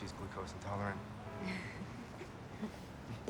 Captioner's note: chuckles